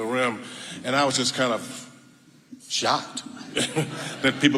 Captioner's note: chuckles